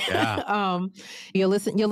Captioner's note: laughs